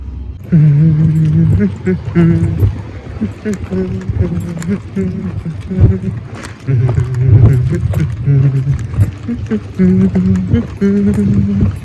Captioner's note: ～♬ Humming